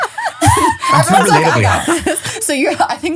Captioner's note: laughing